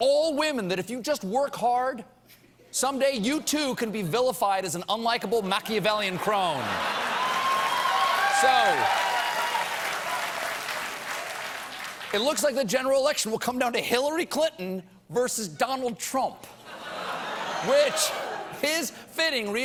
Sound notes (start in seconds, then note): 6.4 cheers and applause; 6.6 laughter